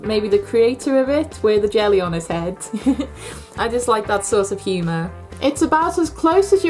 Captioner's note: giggles